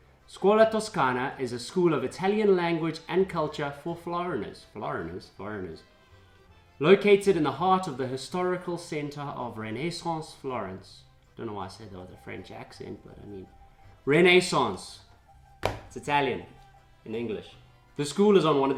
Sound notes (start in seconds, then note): 9.5 french Accent